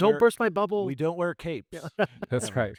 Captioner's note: laughs